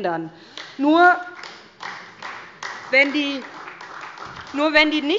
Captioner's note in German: Beifall bei der SPD